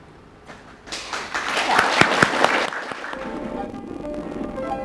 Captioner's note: applause